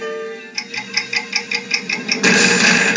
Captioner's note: clock Ticking; boom